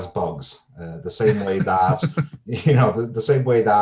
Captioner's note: laughs